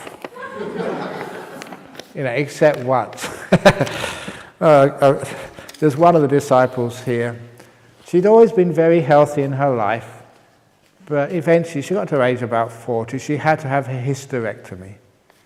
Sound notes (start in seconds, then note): 0.3 laughs; 3.2 chuckle